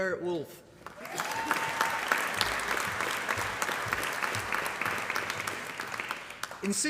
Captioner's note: applause